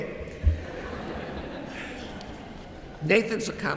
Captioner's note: audience chuckles